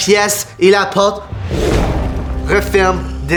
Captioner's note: heavy slam